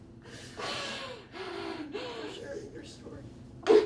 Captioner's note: jadeando